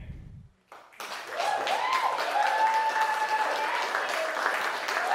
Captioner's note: crowd cheering